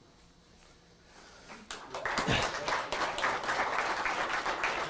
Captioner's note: applause